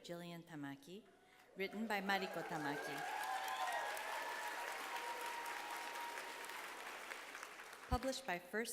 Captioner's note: applause